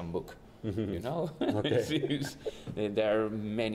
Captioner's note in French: rires